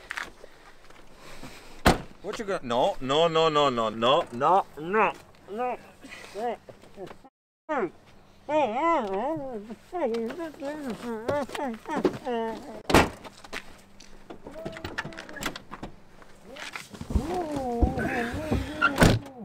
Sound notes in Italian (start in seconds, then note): 5.6 lamentele smorzate; 8.5 altre lamentele smorzate; 14.3 urla smorzate dal bagagliaio; 17.0 continuano le urla e i colpi dal bagagliaio